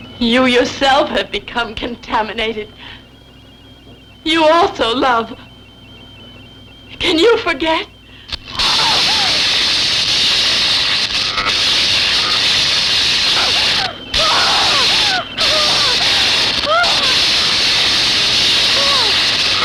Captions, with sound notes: You, yourself, have become contaminated. You also love. Can you forget? (electrical fizzling) (screaming)